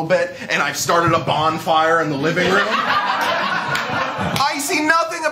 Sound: laughter

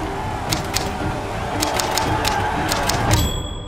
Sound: typing sounds

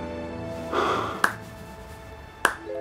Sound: exhales, clapping

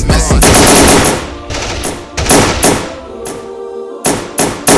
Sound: gun shots; choir singing

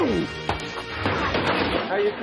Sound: fist strikes; bottle breaks; body crashes

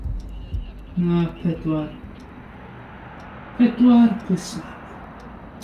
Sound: rhythmic electronic music; voices over radio systems

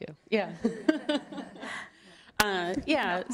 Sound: laughter

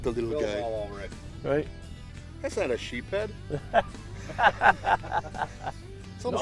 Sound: laughing

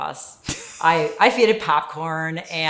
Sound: laughs

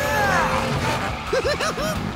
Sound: grunting; laughing

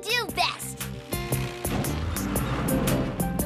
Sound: rumbling

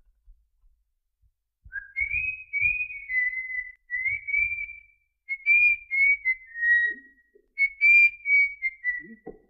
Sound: whistling

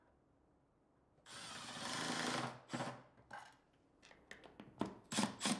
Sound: drilling screws

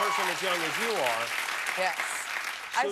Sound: cheers and applause

